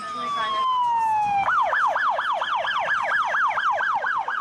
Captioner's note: siren